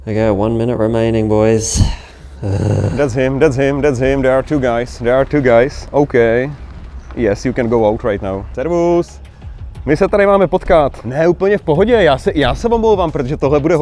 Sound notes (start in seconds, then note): 1.5 grunts; 8.8 speaking in Czech